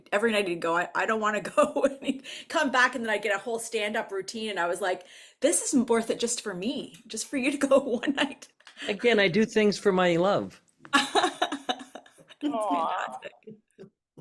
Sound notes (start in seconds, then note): 1.8 chuckles; 11.0 laughs